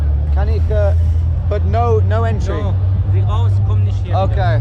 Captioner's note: speaking in a foreign language